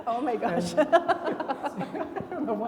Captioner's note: everybody laughing